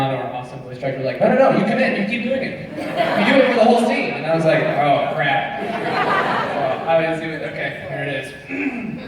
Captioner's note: clears throat